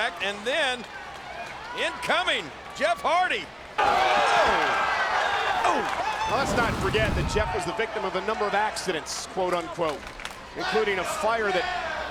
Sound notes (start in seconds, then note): 3.9 spectators cheering